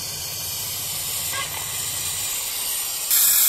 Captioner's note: steam hissing